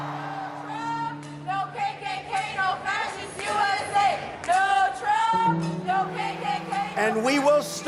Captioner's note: chant